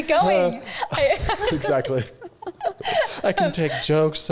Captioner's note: all laughing